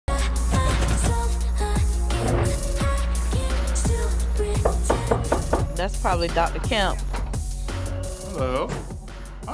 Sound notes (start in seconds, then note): 0.1 upbeat music; 4.6 knocking